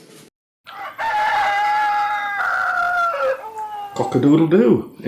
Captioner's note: rooster crowing